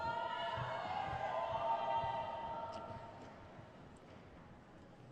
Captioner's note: crowd cheers